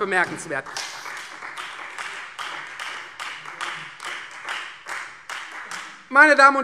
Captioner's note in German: Beifall